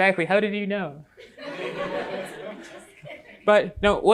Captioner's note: laughter